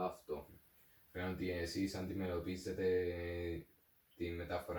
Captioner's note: stutters